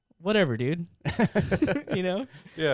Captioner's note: laughing